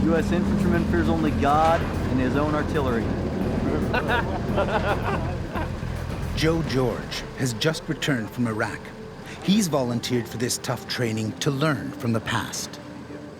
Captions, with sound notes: - U.S. infantryman fears only God and his own artillery. (laughter) - [Voiceover] Joe George has just returned from Iraq. He's volunteered for this tough training to learn from the past.